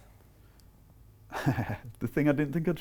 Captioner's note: laughing